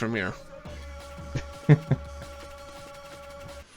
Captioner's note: snickers